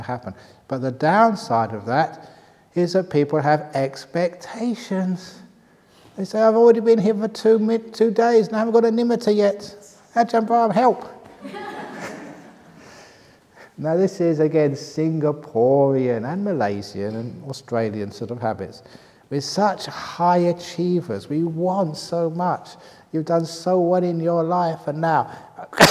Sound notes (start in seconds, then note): 11.3 laughter